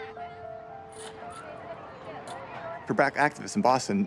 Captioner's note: children calling in background